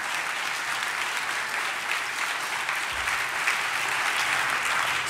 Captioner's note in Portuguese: Aplausos